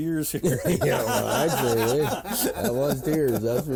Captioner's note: all laugh